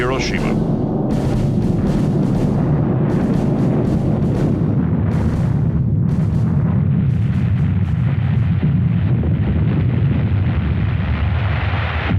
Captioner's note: deep explosive rumbling